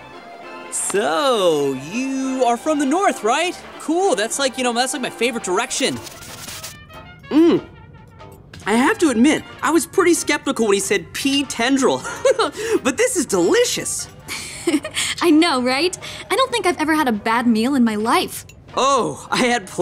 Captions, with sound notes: So, you are from the north, right? Cool. That's like, you know, that's my favorite direction. Mm. I have to admit I was pretty skeptical when he said pea tendril. [chuckles] But this is delicious. [giggling] I know, right? I don't think I've ever had a bad meal in my life. Oh, I had plenty